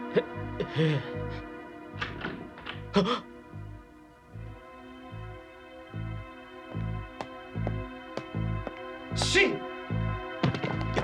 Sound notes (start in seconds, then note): 2.0 sound of a door opening